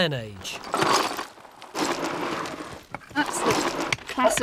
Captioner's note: pottery clanking